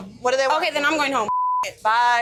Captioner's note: beep